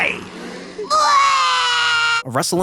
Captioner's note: Dogen cries